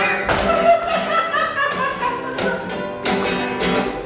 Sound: laughter

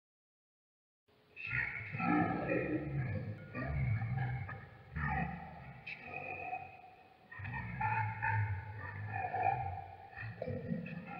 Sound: demon grumble whisper

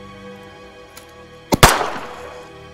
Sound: gunshot

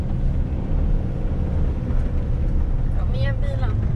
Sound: car working hard to get up

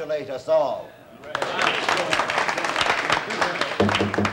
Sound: applauding

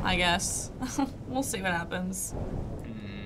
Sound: chuckles

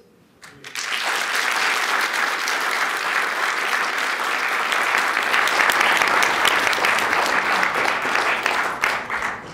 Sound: applause

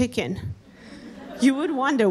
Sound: audience laughing

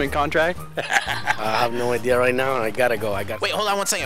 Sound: laughing

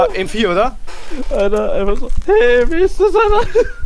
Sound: laugh

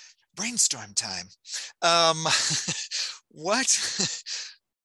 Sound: chuckling

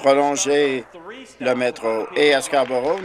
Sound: applause

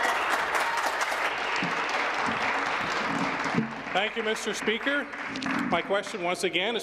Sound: applause

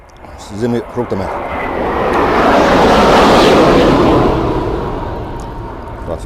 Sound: sound of fighter engine

